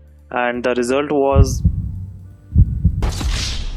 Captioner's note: dramatic Heartbeat